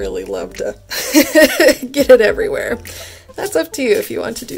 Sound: chuckles

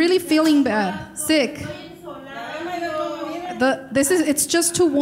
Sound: speaking in foreign language

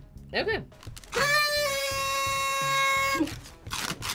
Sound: horns honking

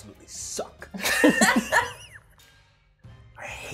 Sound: participants laughing

